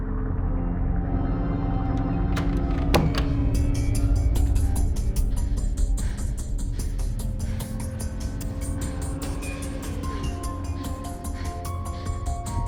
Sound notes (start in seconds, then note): 1.8 tense music continues; 2.0 door thudding; 3.9 suspenseful music; 8.6 suspenseful music continues